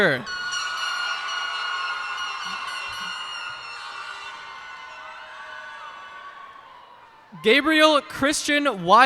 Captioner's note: cheers and applause